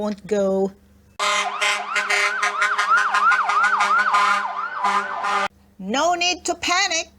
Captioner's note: honk! honk!